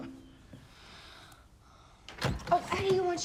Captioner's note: awkward chuckling